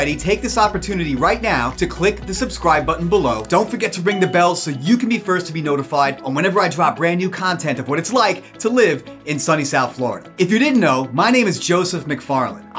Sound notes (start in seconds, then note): 3.3 cursor clicks; 4.1 bell dings